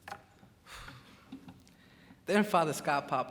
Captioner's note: sighs